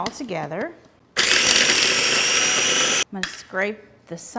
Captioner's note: blender grinding